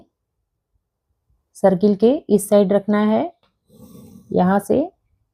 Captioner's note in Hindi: नाक से की जाने वाली आवाज़